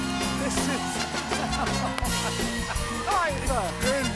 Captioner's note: laughs